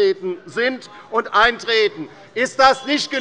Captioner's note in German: Anhaltende Unruhe - Glockenzeichen des Präsidenten